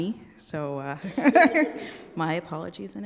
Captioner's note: chuckling; audience chuckling